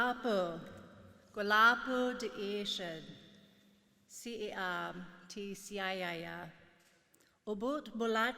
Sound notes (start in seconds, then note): 2.2 speaking in foreign language